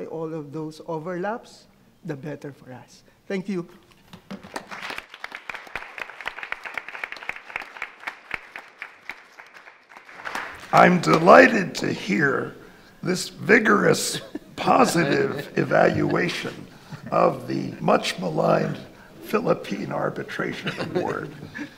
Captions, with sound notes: all of those overlaps, the better for us. Thank you. (audience applauds) - I'm delighted to hear this vigorous, positive evaluation of the much maligned Philippine arbitration award.